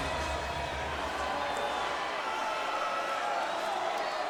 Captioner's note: crowd murmuring